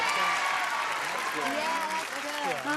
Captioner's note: cheering